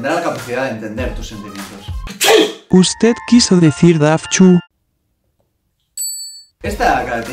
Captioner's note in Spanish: Estornudo